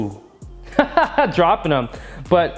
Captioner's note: laughing